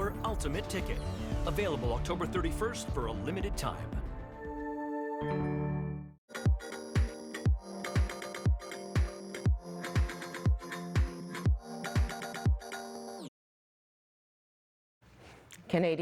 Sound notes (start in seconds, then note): 5.7 OLG Chime